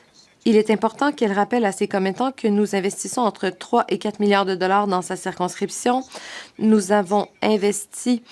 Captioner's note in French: voix de l'interprète